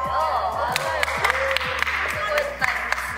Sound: applause!

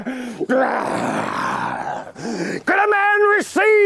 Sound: growls

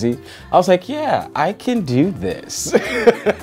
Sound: laughing

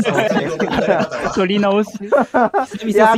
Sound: laughs

